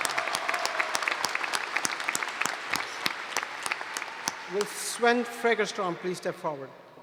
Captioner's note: applause